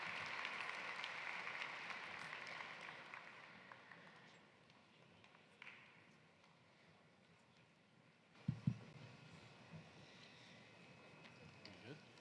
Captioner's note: applause